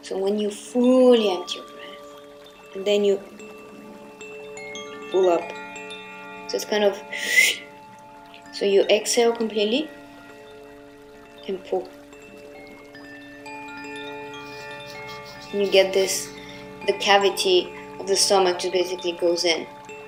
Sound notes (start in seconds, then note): 3.6 gentle chiming; 7.2 whistles; 11.6 gentle chiming